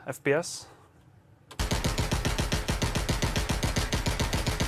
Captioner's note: gunshots